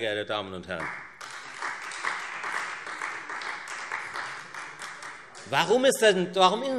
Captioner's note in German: Beifall Freie Demokraten und vereinzelt AfD